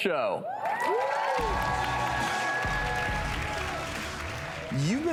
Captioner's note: audience applauds